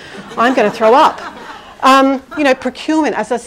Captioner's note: audience laughing